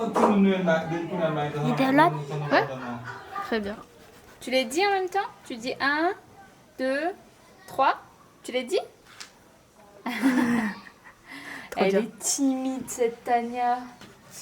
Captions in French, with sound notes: tu les dis en même temps? Tu dis 1...2...3 tu les dis? [Rires] Elle est timide cette Tania!